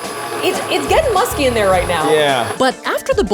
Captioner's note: machine whirling